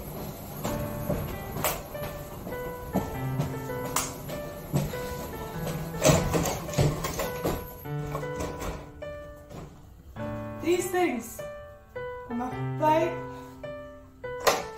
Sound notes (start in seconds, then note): 0.1 stOMp stOmP StOmP; 5.3 sTOMPSTOMP THUD